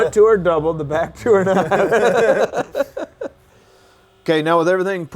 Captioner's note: men laugh